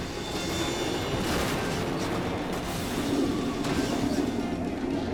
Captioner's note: crash clattering